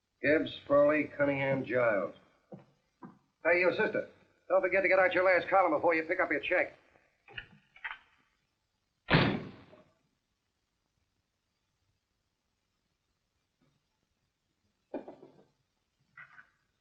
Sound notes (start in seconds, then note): 9.1 door slamming